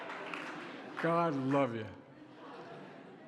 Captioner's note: laughter and applause